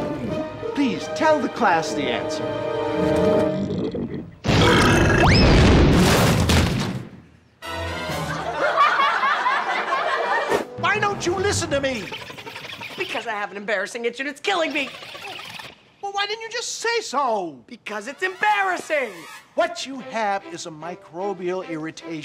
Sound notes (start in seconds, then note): 3.0 belching; 8.3 laughing